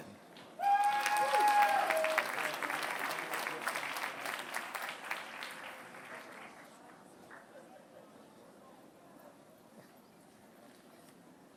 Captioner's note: applause